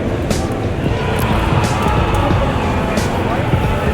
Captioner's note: upbeat music; crowd chattering